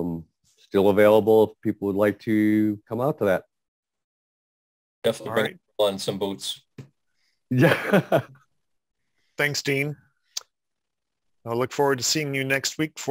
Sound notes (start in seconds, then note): 7.6 laughs